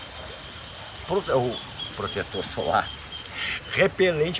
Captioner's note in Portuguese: risos